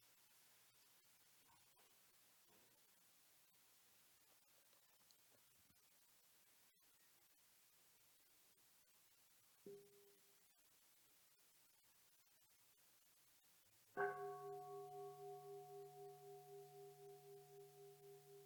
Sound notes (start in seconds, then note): 9.8 bell dinging; 14.0 bell dinging